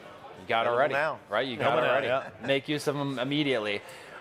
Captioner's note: men chatter